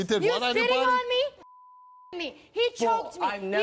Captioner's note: beep